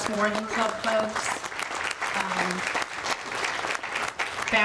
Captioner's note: audience applauding